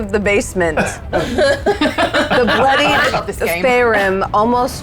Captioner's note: players laughing